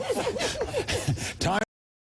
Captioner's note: laughter